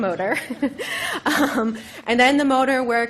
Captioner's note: laughs